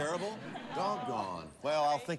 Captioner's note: audience laughing